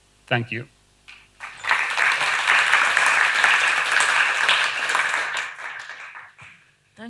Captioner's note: applause